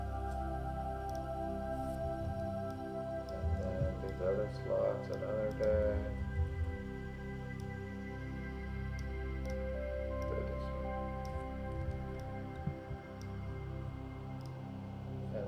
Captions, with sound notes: (gentle music) And then, there's other slots that aren't there. (gentle music) (mouse clicking)